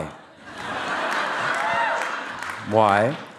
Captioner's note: audience laughing